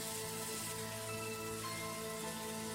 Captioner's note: water running